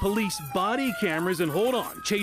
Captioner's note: sirens